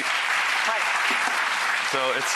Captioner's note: audience clapping